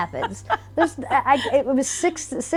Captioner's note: laughs